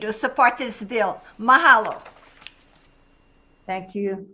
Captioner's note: speaks in a foreign language